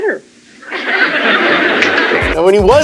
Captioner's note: audience laughing